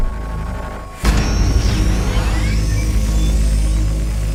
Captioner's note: unibike engine starts. action music begins